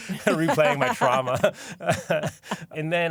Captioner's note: laughter